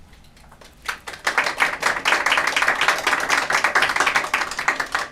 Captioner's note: applause